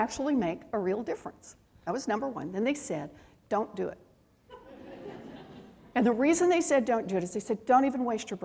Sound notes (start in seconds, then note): 4.5 laughter